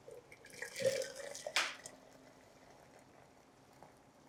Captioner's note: liquid pouring